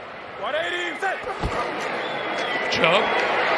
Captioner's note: whistle blowing